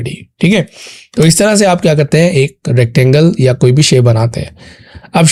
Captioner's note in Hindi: नाक से की जाने वाली आवाज़